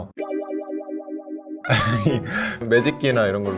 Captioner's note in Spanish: Ahhh; Explicándose rápidamente